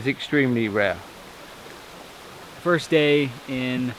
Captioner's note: water gushing